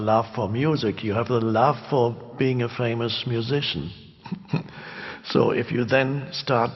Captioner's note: chuckles